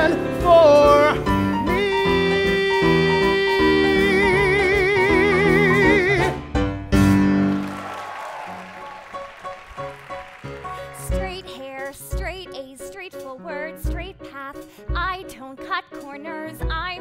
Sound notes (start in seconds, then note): 7.3 applause